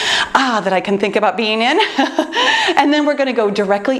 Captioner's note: laughs